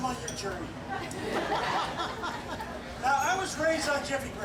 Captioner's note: audience laughs